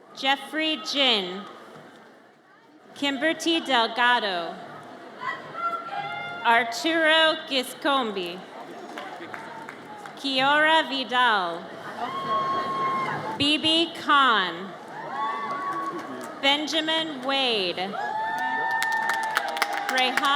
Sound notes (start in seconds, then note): 11.9 audience cheers; 14.8 audience cheers; 17.8 audience cheers